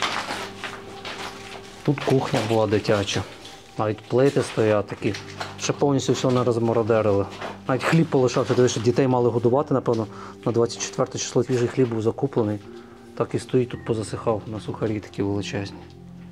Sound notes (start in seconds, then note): none